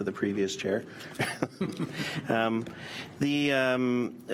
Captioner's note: laughter